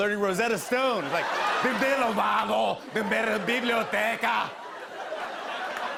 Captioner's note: speaking Spanish loudly; laughter